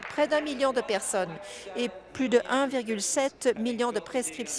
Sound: applause

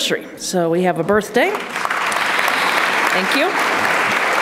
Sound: applause

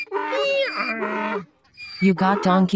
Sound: donkey braying

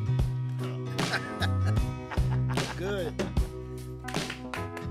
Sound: upbeat music; laughing

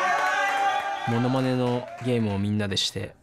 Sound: clapping; non-english speech

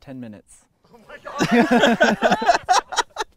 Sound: laughter; voiceover

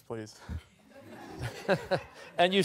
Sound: laughter

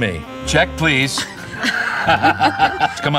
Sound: both laugh

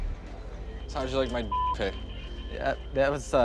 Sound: beep

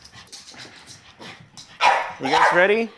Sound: dogs barking

